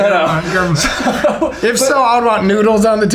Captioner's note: laughter